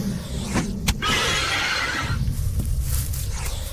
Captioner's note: smack; angry roar